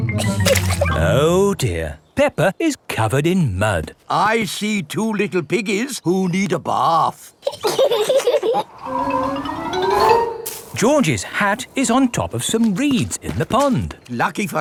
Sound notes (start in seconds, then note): 0.1 chuckles; 7.6 both laughing